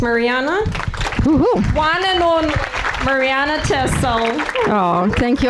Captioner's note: audience applauding